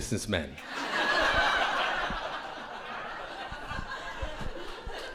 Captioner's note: crowd laughing